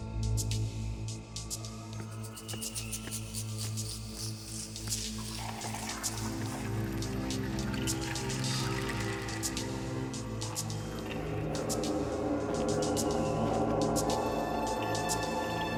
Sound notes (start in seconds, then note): 0.2 suspense music; 4.9 soft footsteps